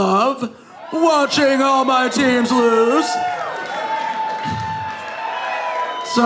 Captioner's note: audience cheering